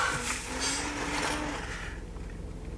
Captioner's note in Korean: 의문의 신음소리